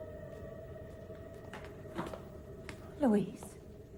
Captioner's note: footsteps approach